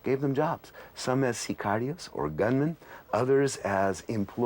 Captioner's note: speaking in non-English